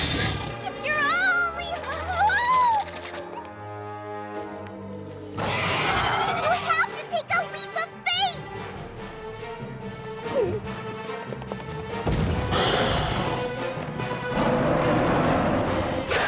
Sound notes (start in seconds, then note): 10.1 gulps; 12.5 growls; 14.4 roars